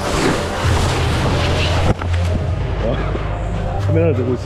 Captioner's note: crash